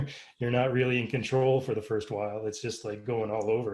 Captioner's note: laugh